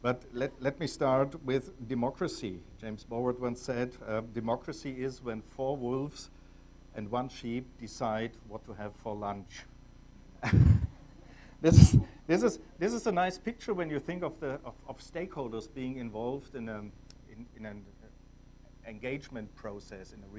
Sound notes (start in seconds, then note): 10.4 attendees laughing; 10.4 laughs